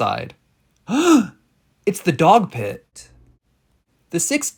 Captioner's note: gasp